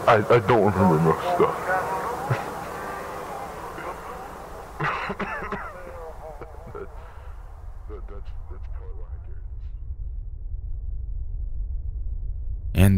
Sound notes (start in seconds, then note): 4.9 coughs; 8.0 dark music; 8.0 muffled chatter